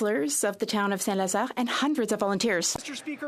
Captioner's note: speaking French